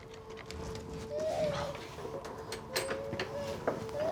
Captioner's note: baby crying